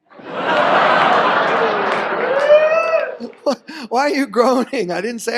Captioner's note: audience laughs